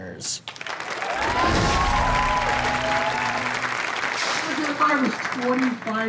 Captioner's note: audience applauds and cheers